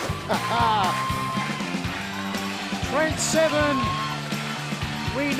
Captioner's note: laughter